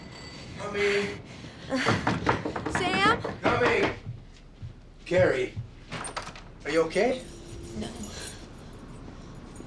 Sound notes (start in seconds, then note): 6.9 keys jangling